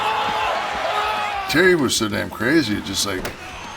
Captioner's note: applause